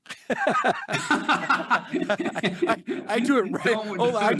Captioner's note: both laughing